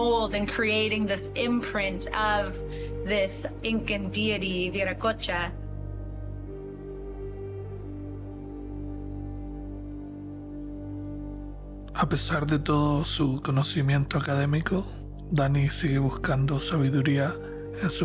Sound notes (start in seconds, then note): 6.0 mystical music continues; 12.0 narrator speaking Spanish